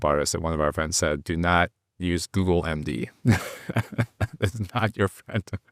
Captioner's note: chuckles